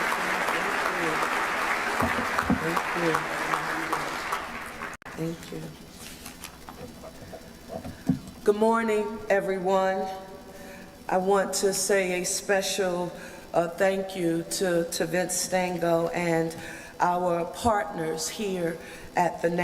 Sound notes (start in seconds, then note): 4.3 applause